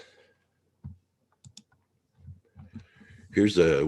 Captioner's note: mouse clicking